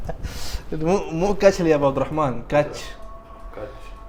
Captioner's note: laughing; Arabic